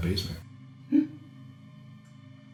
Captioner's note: gasps